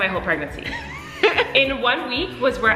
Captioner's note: laughing